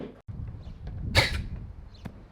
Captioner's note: wooosh